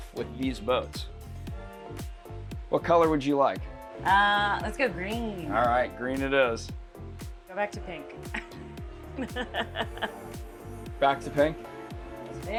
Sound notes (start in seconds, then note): 9.1 laughs